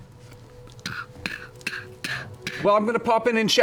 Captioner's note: hammering noises